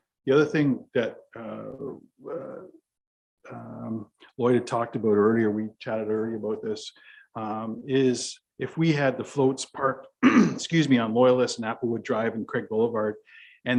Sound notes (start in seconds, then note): 10.2 clears voice